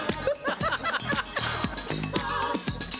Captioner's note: laughing